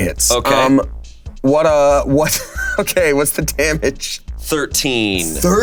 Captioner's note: Damien chuckling